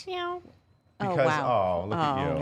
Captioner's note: meows